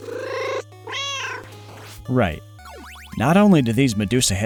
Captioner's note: meow